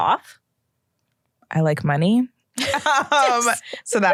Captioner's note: laughter